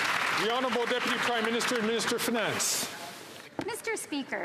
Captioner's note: some Applause